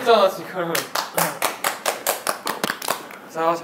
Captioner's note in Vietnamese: Vỗ tay khen ngợi